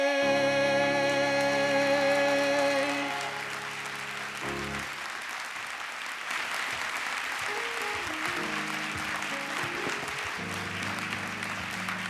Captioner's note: applause